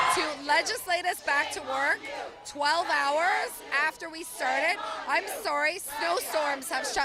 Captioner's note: cheers and Applause